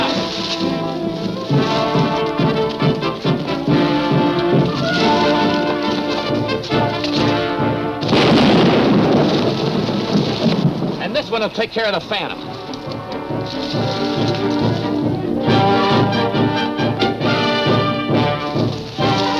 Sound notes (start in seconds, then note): 1.5 dramatic chase music; 8.3 grenade exploding; 16.0 dramatic music